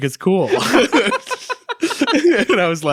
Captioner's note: both laugh